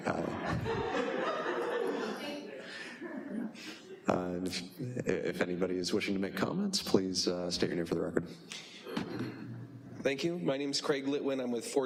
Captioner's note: laughter